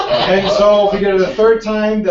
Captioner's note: laugh